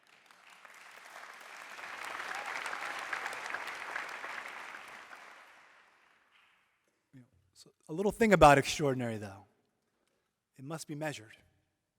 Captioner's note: applause